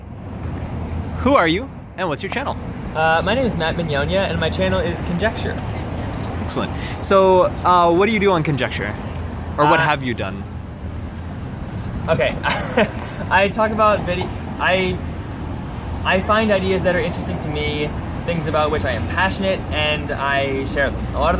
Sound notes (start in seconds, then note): 12.2 laughs